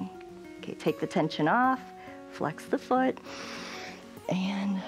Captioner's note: inhales